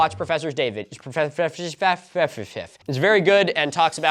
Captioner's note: mocking his own slip up